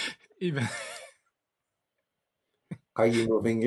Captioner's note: laughing